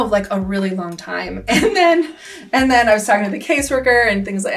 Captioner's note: laughs